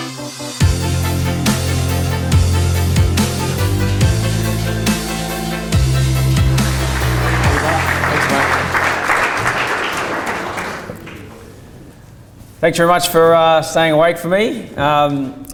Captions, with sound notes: (upbeat electronic music) - How you going? Thanks mate. (audience applause) Thanks very much for staying awake for me.